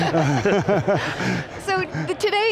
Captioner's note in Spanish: risas